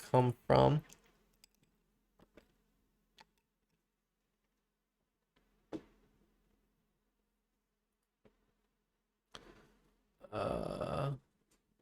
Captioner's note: silence